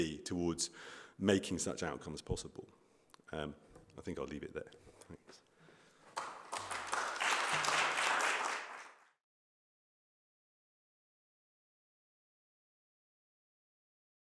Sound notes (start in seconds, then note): 6.0 applause